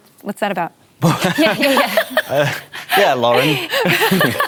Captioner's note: laughter